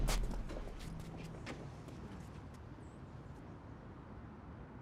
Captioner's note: footsteps shuffling